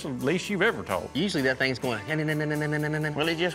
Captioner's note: chatter noise